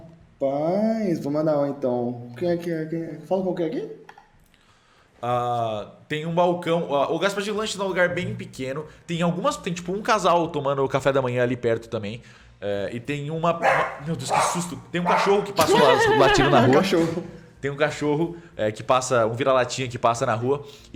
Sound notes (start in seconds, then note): 13.6 bark